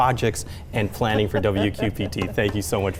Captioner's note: chuckling